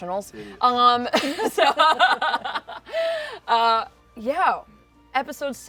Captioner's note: laughter